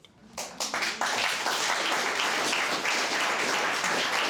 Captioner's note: all applauding